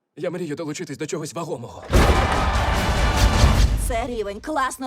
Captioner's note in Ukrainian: none